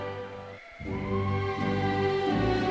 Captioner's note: audience cheers; stately celebratory music